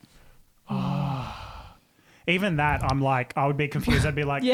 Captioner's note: sighs